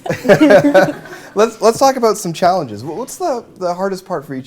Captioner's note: laughter